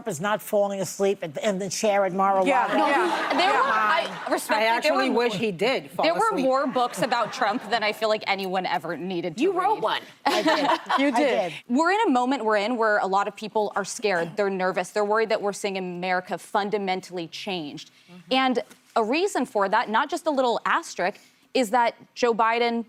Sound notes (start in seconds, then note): 5.7 laughter